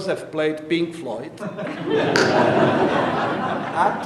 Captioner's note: audience laughing